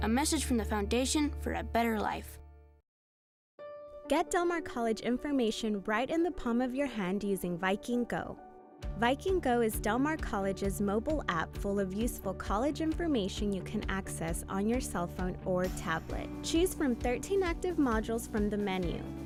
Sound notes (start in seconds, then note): 4.0 voiceover